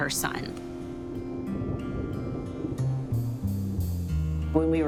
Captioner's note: thunder rumbling